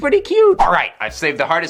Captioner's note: whoosh